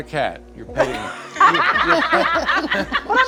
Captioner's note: group laughing